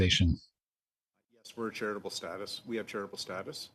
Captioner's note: speaking French